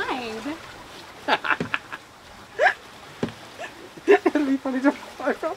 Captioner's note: laughs